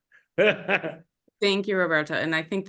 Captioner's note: laughs